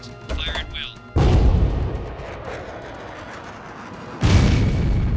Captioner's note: weapon blasts; shot whirring; loud boom